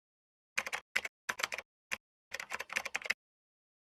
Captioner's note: typing